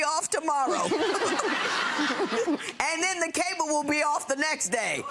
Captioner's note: laughing